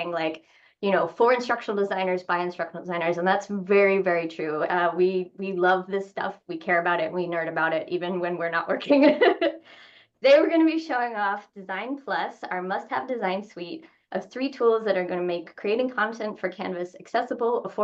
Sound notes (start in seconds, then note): 8.8 laughs